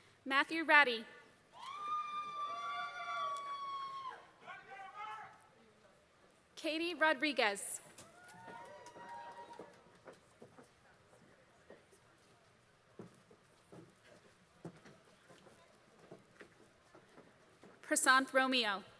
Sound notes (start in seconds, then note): 1.4 applause